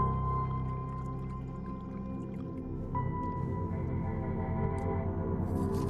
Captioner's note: liquid bubbling